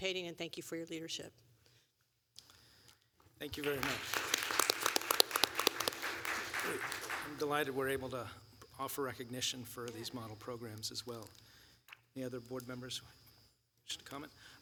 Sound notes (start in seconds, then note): 3.4 applause